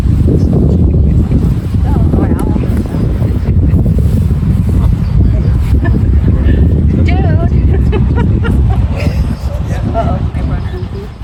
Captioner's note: laughter